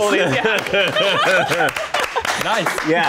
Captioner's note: applause